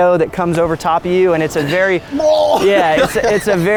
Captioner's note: retching sound